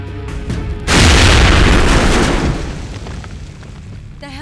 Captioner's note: booming